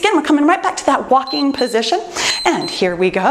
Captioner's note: timer beeps